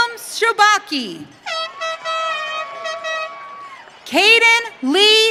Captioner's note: audience cheering